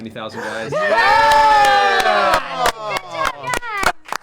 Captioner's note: cheering